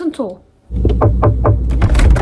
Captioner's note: knocking